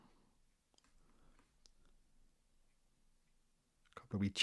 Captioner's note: silence